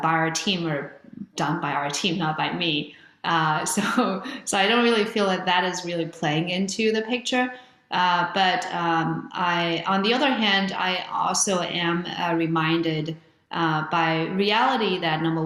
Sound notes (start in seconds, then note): 3.9 chuckles